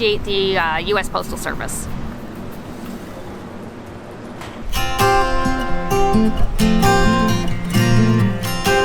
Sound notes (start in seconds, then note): 2.3 bike passing; 2.3 ocean whooshing; 4.8 cheery chill music